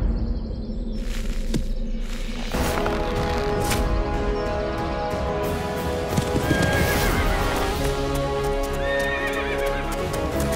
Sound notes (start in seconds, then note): 2.5 dramatic sound